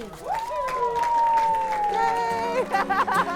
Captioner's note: crowd cheers; laughs